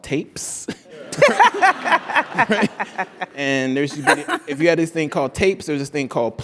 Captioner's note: laugh